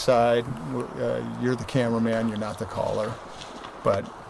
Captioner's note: branches Breaking